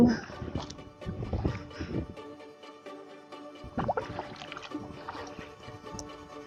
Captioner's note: paddling, wind & suspenseful music